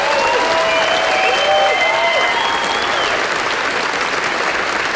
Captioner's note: audience cheering; audience applauds